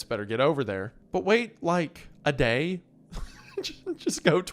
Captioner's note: laughs